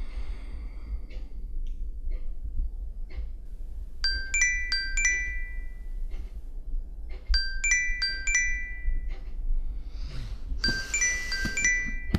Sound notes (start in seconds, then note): 4.1 phone Alarm Rings